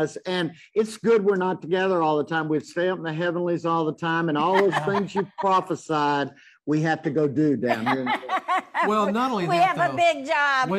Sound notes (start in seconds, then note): 7.7 laughs